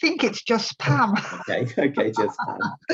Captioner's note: both laughing